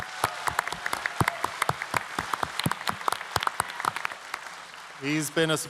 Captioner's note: applause